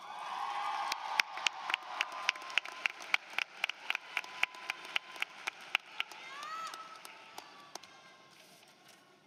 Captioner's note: applause